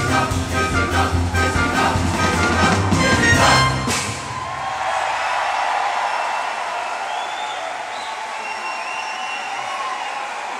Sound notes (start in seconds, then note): 5.1 audience cheering